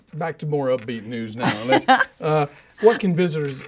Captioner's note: laughing